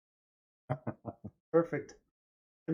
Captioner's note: laughing